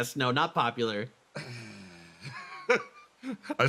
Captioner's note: Yaiyo Sigh